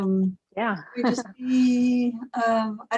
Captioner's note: laughs